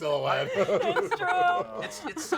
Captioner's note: laughter